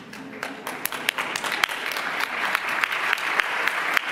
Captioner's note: applause